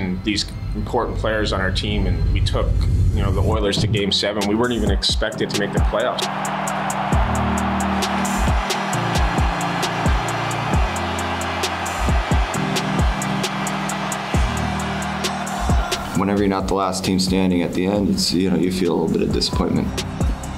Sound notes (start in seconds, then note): 6.2 crowd roaring; 8.8 hip hop music